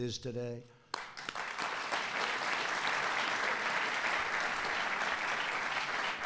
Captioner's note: applause